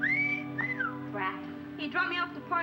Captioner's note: Jim whistling